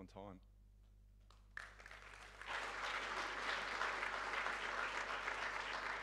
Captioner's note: audience applauding